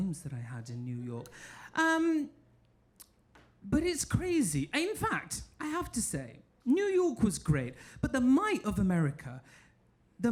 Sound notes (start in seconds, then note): none